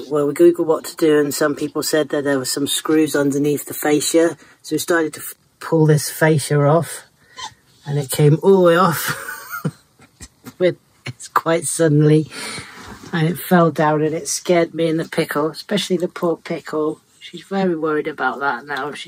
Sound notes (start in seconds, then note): 11.3 nervous laughter